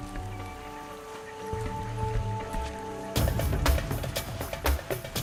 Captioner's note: animals calling